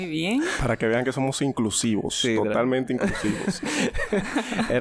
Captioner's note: laughs